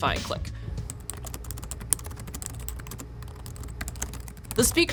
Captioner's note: typing keys clicking